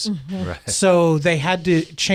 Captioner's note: laughs